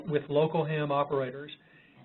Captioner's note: off-mike